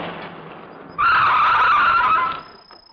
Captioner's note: brakes squeal